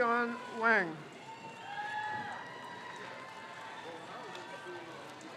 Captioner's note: crowd cheers